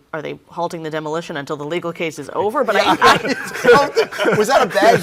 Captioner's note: all laughing